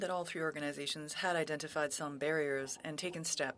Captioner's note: speaking French